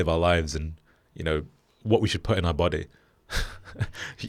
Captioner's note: laughs